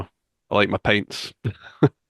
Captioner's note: chuckles